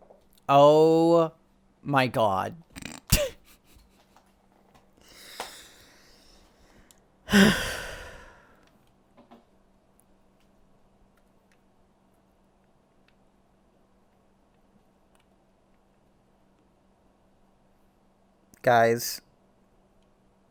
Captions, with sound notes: Oooooh my god... *chortles* *sighs* Guys.